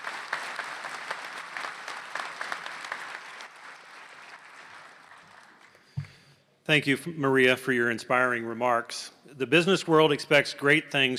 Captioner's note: applause